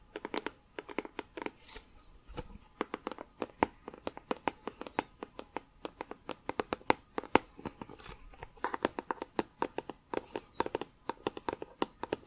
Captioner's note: tapping on plastic